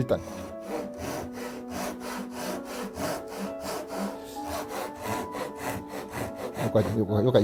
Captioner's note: sawing sound